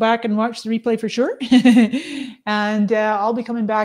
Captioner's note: laughs